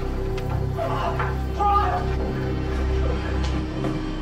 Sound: groans

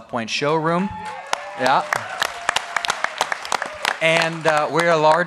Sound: applause

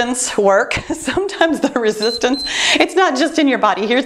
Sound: timer beeps

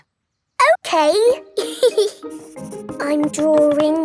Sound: giggles

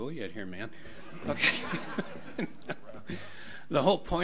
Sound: audience laughs

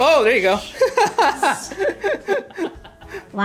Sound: laughs

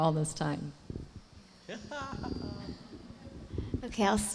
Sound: laughs

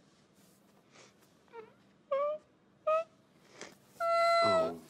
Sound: cries

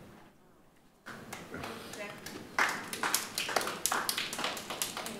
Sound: group clapping

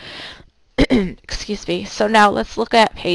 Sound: clearing throat

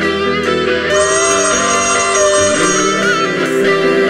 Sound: phone rings

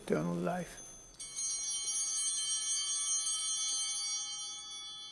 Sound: bell ringing

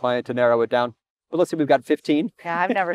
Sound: chuckles

